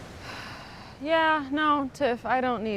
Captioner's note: Fern sighs